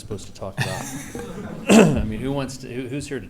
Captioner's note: laughing